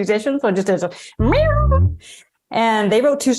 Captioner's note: mimicking guitar